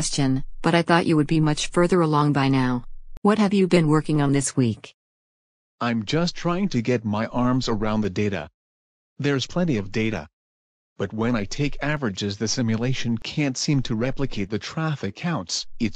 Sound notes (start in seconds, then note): 5.2 tired